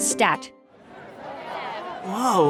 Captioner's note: crowd talking